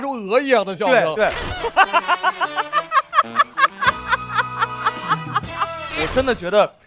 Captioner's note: hahahahahaha